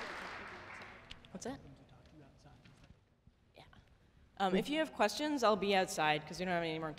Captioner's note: applause